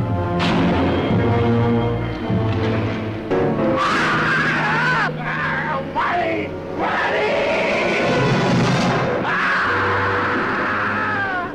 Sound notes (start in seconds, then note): 0.3 dramatic music; 3.8 screaming